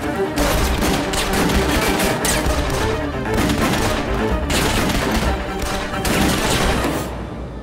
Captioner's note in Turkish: Çatışma sesleri